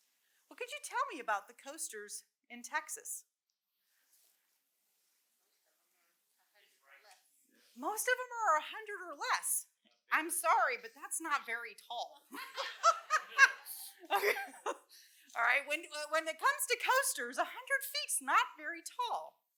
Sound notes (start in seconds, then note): 12.3 laughter